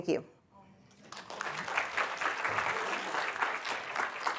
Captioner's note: applause